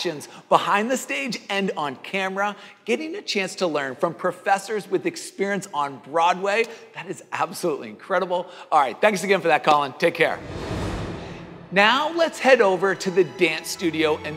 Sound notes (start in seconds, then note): 10.3 air swooshing